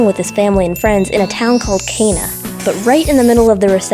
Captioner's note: chimes; ding